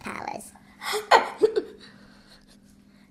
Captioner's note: laughs